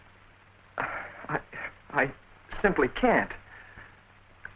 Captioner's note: sigh